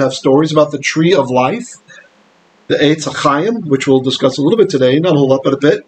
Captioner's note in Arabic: بالعبرية